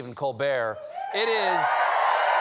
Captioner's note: cheers and applause